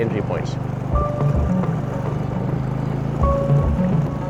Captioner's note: boat engine purring; gentle music